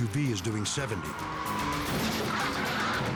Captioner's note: tires screech; fast-paced music